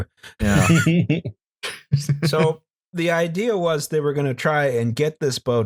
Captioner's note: laughter